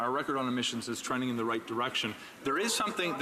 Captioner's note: speaking French